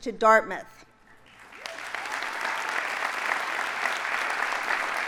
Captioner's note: audience applauding